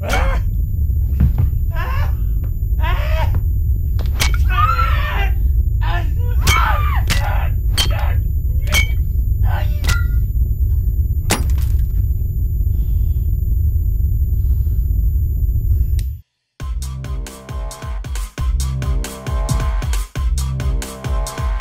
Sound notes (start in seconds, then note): 0.3 creature grunts; 3.8 bottle clanking; 4.3 creature yelling; 6.4 woman screams; 7.7 bottle clanking; 7.7 creature yelling; 12.7 glass shatters; 16.7 pounding electronic music